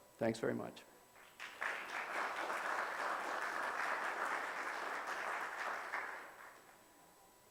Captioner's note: audience applause